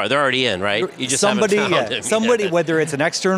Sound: laughs

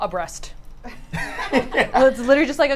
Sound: all laugh

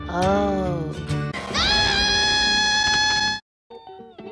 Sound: screams

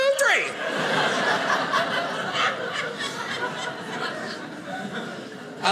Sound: audience laughing

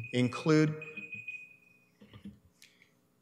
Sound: alarms beeps

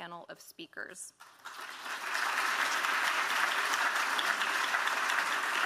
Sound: audience applauds

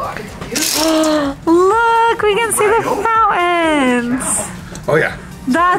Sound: gasping

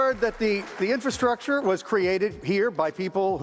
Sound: applause

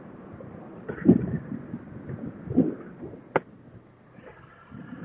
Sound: wind and face shield clicking shut

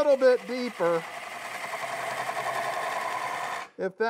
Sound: wood lathe chattering

